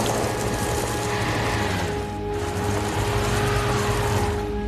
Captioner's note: wheels spinning